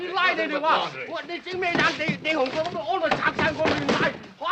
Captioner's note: yelling in Chinese